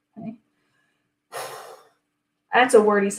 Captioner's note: sighing